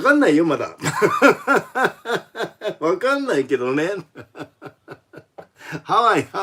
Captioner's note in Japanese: 笑い